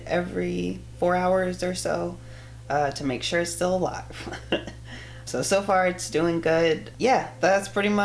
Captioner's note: laughs